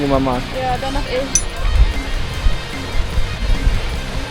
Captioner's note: speaking German